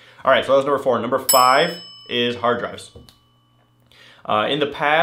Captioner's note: bell rings